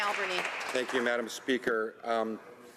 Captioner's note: some Applause